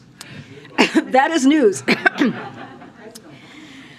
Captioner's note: laughter